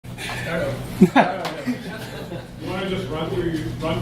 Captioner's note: laughing